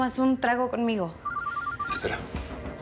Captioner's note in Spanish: suena el celular